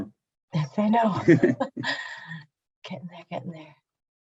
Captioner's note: both laughing